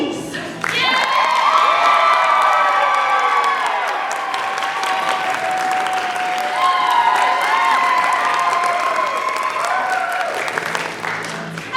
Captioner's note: cheering